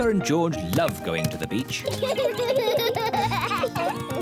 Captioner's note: both laugh